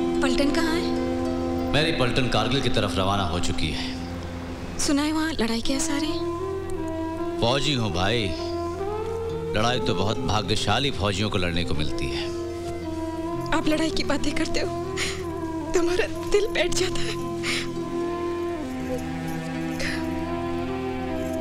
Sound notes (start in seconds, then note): 16.9 Sobbing